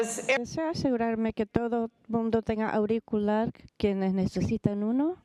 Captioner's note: speaking foreign language